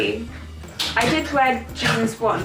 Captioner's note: clap clap